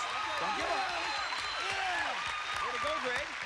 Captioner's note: cheers and applause